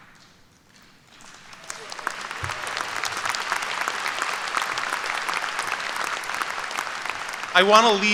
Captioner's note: applause